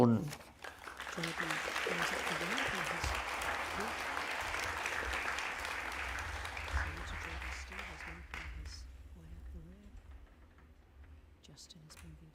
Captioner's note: applause